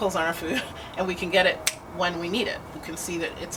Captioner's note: snaps